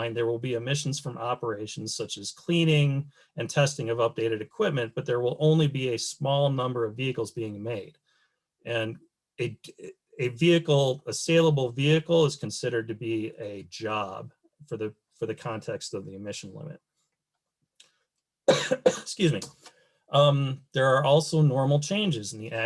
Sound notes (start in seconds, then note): 18.4 coughs